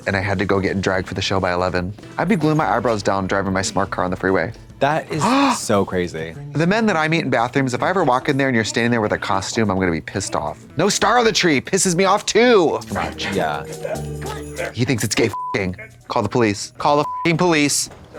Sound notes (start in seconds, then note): 15.3 beep; 17.0 beep